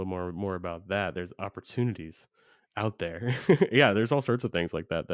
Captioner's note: laughs